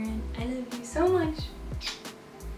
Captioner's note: kiss